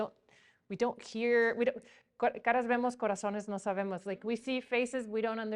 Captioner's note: speaking in a foreign language